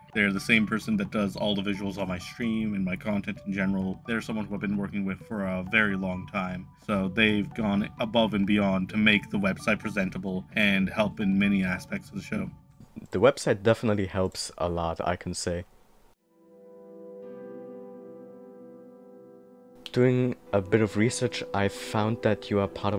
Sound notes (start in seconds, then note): none